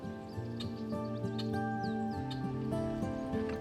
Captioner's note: bird calling